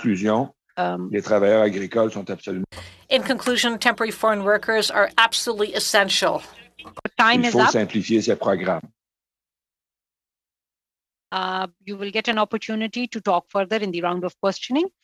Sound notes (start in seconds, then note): 7.4 speaking French